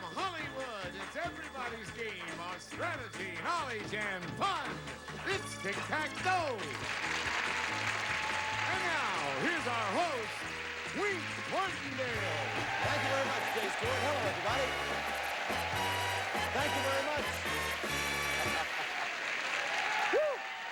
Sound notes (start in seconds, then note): 7.8 audience applauding; 11.6 audience cheering